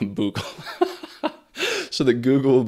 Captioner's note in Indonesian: Tertawa